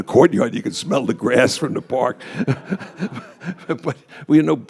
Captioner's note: laughs